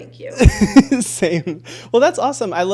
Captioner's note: laughing